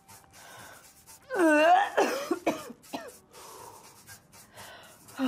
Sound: Maggie vomits

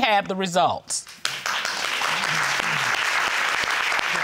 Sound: audience applauding

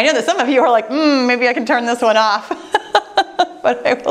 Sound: laughing

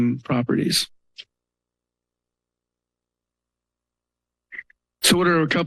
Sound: pause

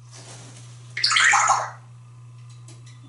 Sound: water Sound

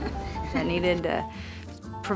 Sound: laughs

